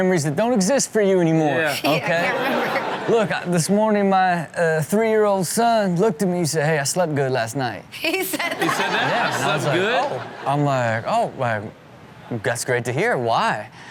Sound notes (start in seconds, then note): 1.6 audience laughs; 8.1 audience laughs